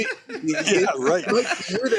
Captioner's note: laughter